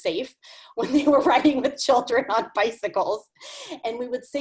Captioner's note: laughs